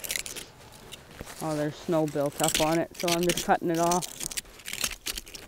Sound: carving sounds

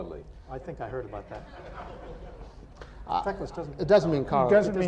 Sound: laughter

